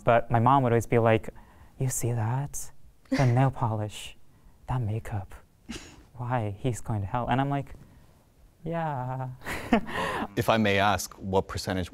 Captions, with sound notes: but my mom would always be like, "You see that? The nail polish, that makeup, why, he's going to hell." And I'm like, "Yeah..." (chuckles awkwardly) - If I may ask, what percentage